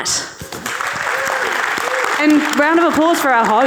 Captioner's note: audience cheering